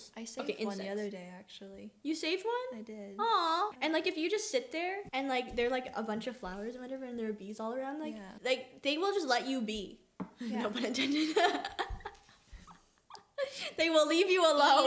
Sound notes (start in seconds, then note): 11.4 sighs